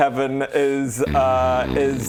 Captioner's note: zzzzzzzzz